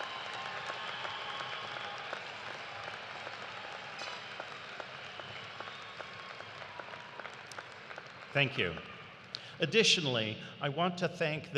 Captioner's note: cheers and applause